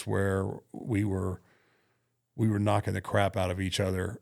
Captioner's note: none